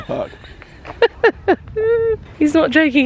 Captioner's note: chuckling